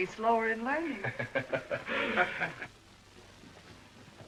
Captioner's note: laughter